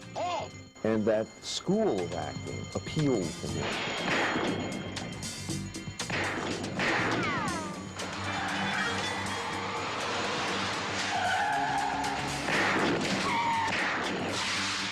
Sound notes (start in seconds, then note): 4.0 dramatic music; 4.0 gunshots firing